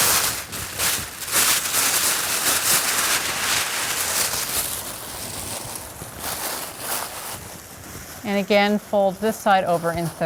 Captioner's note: paper rustling